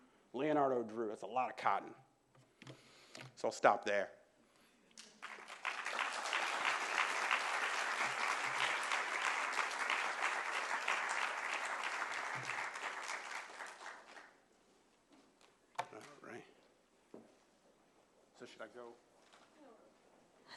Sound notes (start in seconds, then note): 5.0 applause